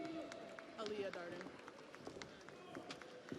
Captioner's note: audience applauds